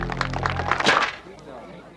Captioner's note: box clangs